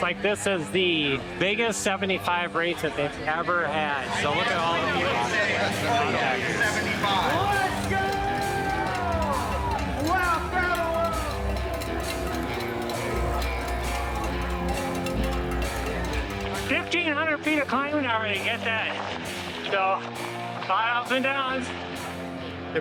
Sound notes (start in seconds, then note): 5.8 people chatting; 11.4 clinking and cattle bells